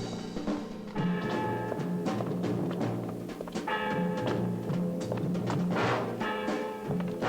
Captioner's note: resolute music continues; bell tolling